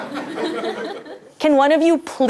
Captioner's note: laugh